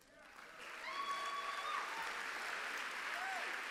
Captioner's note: applause